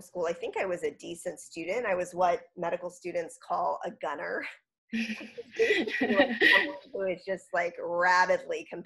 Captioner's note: laughs